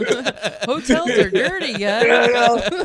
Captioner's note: laughing